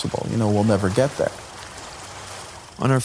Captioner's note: water lapping